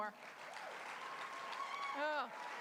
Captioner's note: applause